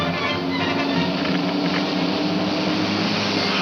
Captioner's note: radio crackles